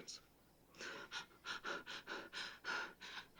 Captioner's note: breath trembling